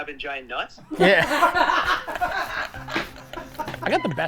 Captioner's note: all laughing